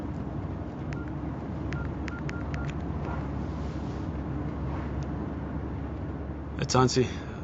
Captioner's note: beeping